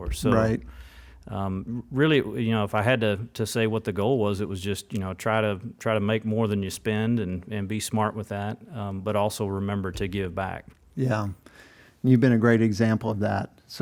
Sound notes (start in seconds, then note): none